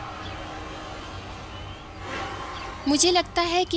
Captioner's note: car humming